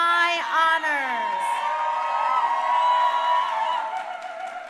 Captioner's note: crowd cheering